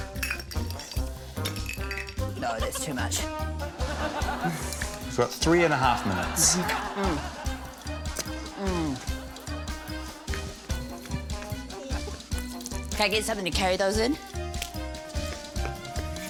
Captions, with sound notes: (GLASSES RATTLE) - No, that's too much. (LAUGHTER) - You've got three and a half minutes. - Mm. Mm. Can I get something to carry those in?